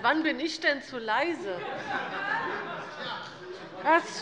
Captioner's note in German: Heiterkeit